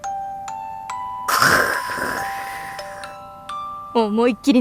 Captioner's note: zzzzzzzzzzzz